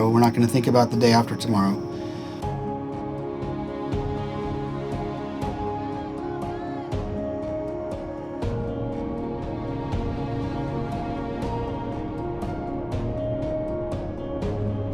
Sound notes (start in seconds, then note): 3.2 gentle music continues; 6.5 riders shouting